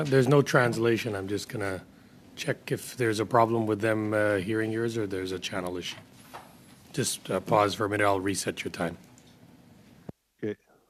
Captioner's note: speaking French